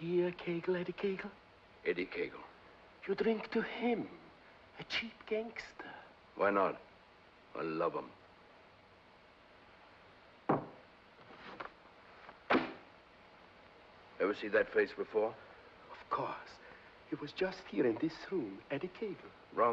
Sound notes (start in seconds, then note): 10.5 glass sets down; 12.4 ledger thumps on desk